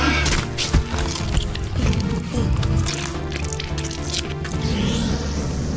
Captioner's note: loud roar; blood squishing; bone-crunching, chewing; hissing